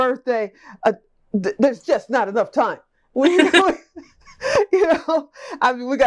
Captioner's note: laughs